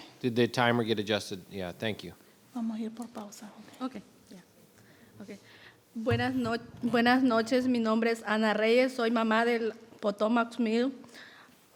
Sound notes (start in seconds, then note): 2.8 interpreter speaking in foreign language; 6.1 speaking in foreign language